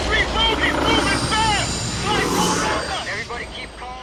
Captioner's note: pilots shouting